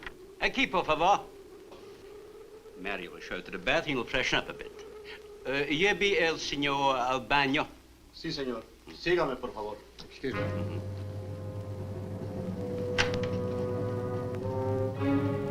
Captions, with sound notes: (Marlowe speaks Spanish) Mario will show you to the bath, you will freshen up a bit. (Marlowe speaks Spanish) (Mario speaks Spanish) - Excuse me. - Mm-hm. (ominous orchestral music)